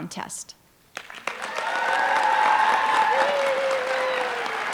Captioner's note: applause